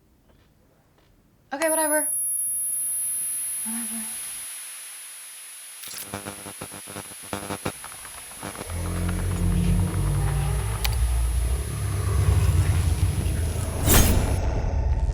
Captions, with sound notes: Okay, whatever. (high-pitched tone ringing) Whatever. (high-pitched tone ringing) (signal buzzing) (tense brooding music) (text whooshes)